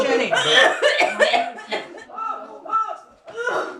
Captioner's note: coughing worsens